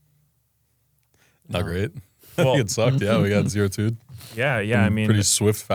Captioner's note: laughs